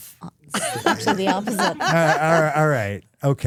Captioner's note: Stephanie laughing